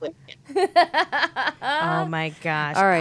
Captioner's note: laughing